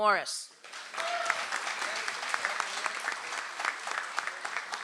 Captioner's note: audience applauds